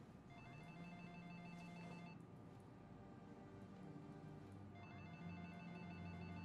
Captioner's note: phone rings